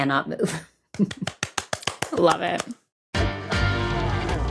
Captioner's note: eager clapping